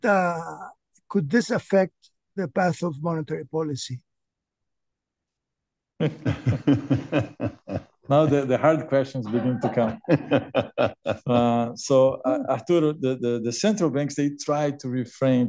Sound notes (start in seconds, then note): 6.0 laughs; 11.8 laughter